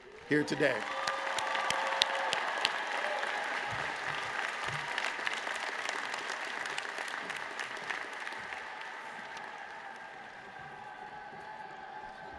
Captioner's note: applause